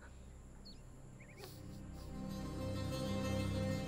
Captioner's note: Crying